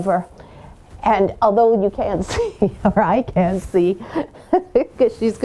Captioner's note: chuckles